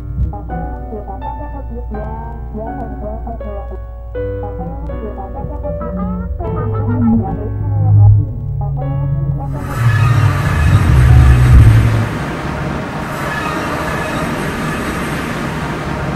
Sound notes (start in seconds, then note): 9.4 engine revving, triangle dings